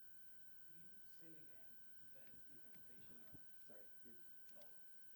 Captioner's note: student faintlys speaking